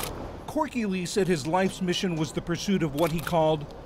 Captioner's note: voice-over